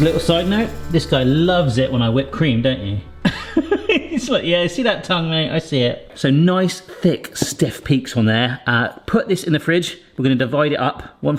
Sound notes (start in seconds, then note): 3.3 laughing